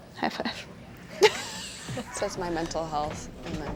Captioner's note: laughing